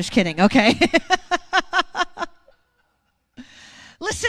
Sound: laughs

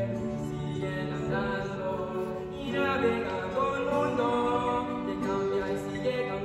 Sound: voices

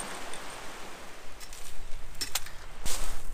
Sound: sea waves sound

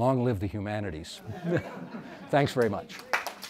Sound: audience laughs; audience applauds

